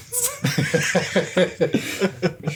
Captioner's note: laughs